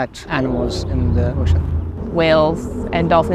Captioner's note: car noise